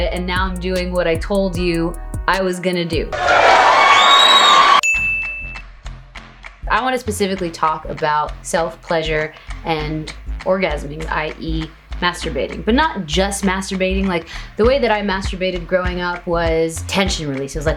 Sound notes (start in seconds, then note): 3.1 crowd cheering; 4.8 ding